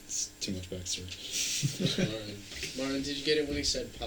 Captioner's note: band members laughing